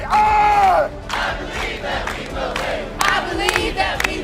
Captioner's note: chanting